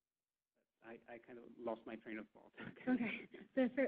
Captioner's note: laughing